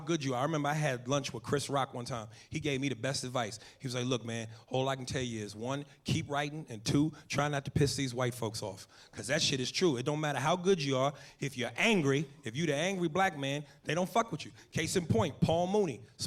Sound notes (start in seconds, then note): none